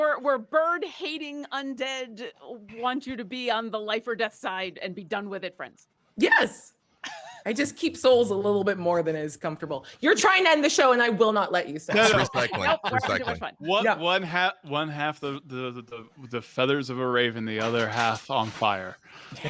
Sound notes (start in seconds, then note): 11.9 people laughing; 11.9 group chattering